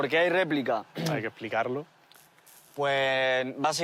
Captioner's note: coughs